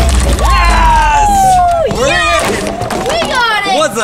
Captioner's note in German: Jubel